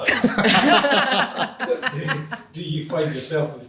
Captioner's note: group laughs